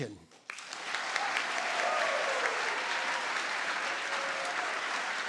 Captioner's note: audience applauds